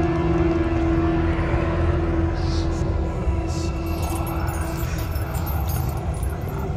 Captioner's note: ominous music continues; ghostly whispering